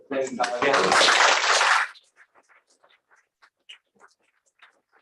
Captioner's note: applause